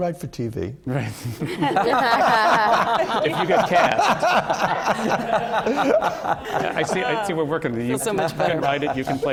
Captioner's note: laughter